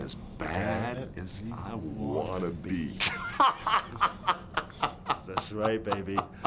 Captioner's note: laughs